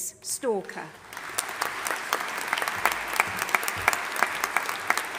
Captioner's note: audience applauding